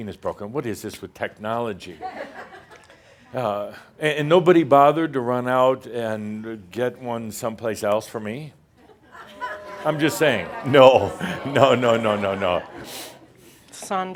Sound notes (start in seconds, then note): 3.3 some chuckles; 9.4 audience says “Ohhh!”